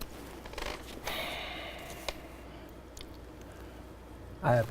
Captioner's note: sighs